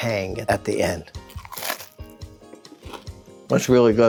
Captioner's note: sandwich crunching